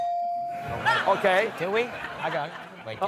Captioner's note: laugher